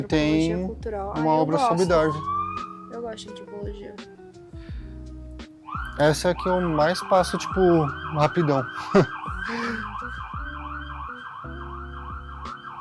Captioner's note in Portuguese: risadas